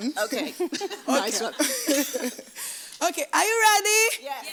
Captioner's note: laughs